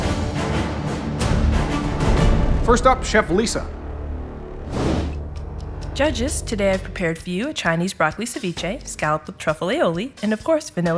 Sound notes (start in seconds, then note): 0.0 intense music; 4.5 whoosh